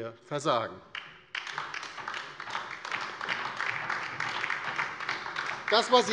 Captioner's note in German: Beifall bei der LINKEN